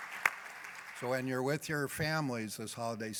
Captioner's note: applause